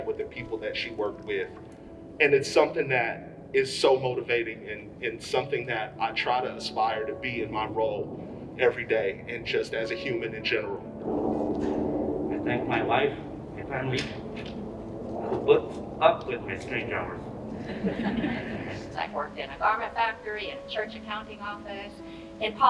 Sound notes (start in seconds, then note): 17.6 audience laughter